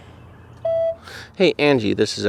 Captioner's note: answering machine beeps